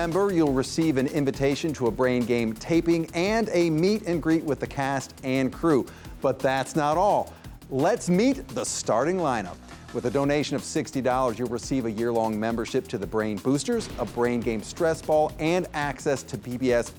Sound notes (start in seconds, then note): none